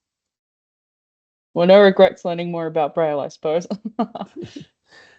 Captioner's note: laughs